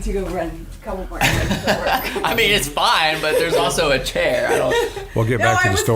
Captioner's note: laughing